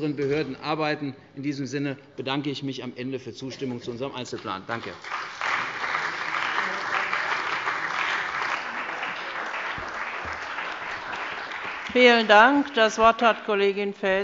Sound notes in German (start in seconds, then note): 10.0 Beifall bei der CDU und dem BÜNDNIS 90/DIE GRÜNEN